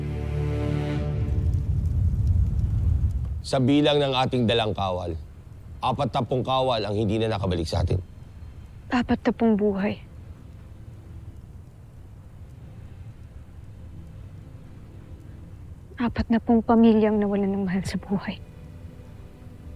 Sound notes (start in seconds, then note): 0.0 music fades; 1.8 wind howling; 10.7 soft dramatic music playing